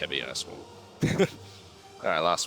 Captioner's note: laughs